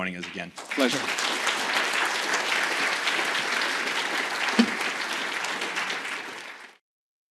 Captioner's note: audience clapping